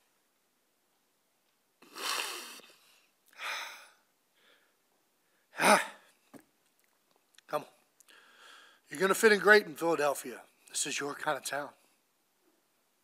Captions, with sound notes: (soft sniffles) Ah. Come on. "You're gonna fit in great in Philadelphia. This is your kind of town."